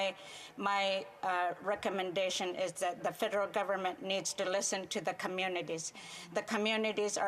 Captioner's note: speaking French